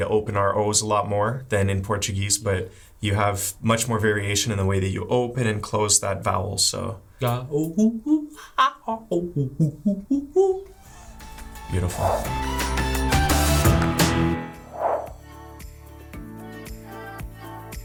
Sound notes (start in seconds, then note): 7.8 monkey sounds